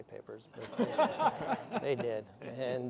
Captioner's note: laughter